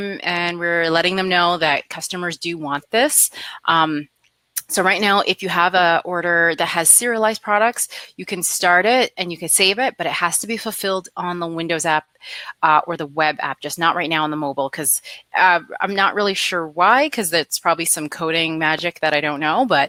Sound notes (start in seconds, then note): none